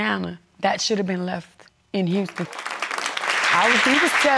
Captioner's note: audience applauding